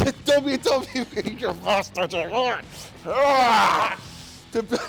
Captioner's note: laugh